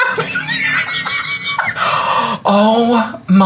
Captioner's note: belly laughs